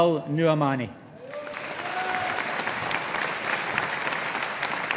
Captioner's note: audience applauding